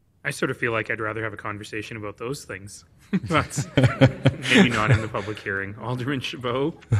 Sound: laughing

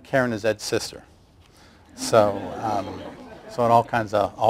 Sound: laughter

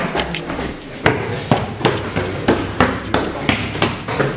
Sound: stair clunking

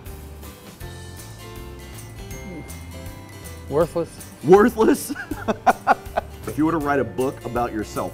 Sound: laughter

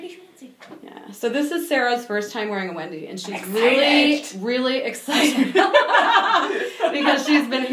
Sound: laughing

